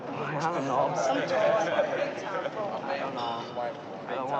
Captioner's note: crowd laughs